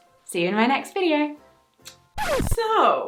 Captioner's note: scratch record sfx